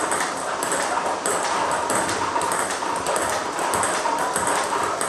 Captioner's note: ball ping pong hitting continues